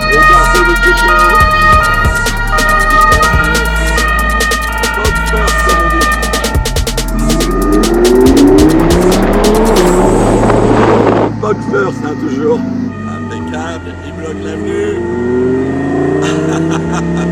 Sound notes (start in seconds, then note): 2.7 police siren